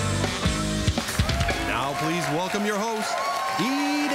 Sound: applause

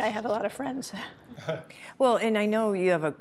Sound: laughs

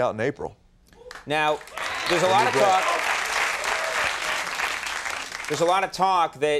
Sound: audience whooping, clapping

